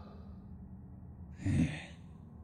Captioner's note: sigh